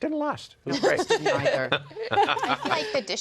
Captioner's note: laughter